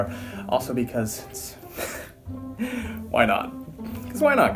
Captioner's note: laugh